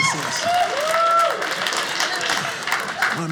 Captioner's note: audience laughing